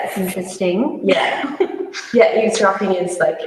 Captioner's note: laughs